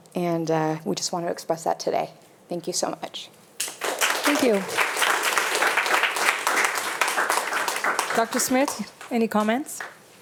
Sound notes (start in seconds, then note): 3.6 audience applauding